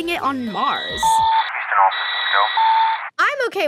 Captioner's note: radio Signal; static